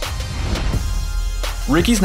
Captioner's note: whooshing sound effect